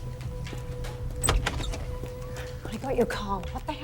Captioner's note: door creaking